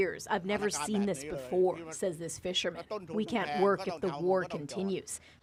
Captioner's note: speaking alternate language